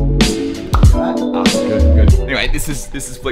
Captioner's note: clap